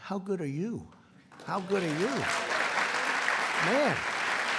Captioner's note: applause